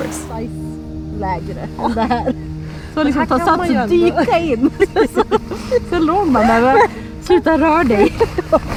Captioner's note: Swedish language